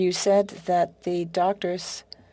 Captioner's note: speaking French